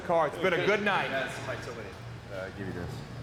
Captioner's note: assistant faintly speaking